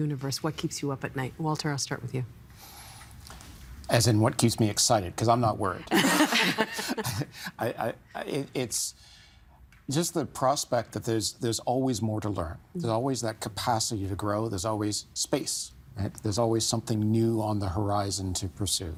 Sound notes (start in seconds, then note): 5.9 chuckling; 5.9 all laughing